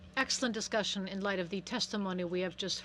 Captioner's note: speaking in french